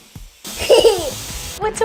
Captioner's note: laughter